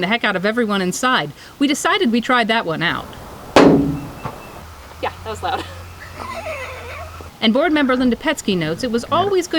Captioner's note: thump